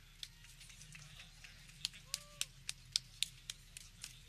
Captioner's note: people clapping